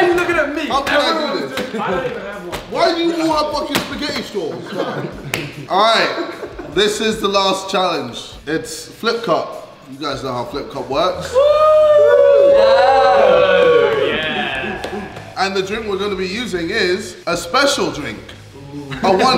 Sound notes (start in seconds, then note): 6.0 laughing; 11.2 group cheering